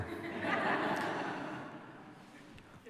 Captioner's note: laughter